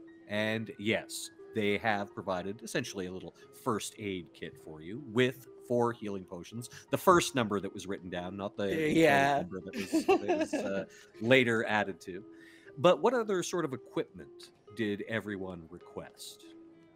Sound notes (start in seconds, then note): 12.4 laughs